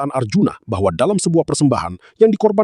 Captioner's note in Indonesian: none